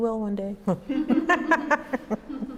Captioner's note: laughter